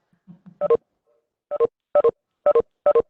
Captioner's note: beep